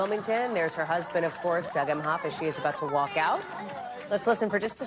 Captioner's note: applause